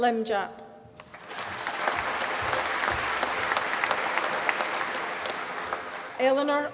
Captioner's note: applause